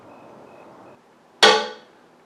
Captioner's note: smack